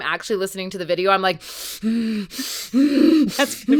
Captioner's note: heavy breathing